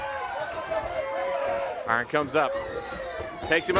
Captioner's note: crowd chatter